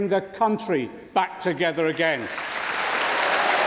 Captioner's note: applause